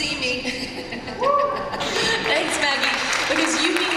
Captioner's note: applause and cheers